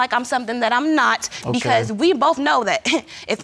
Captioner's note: scoffs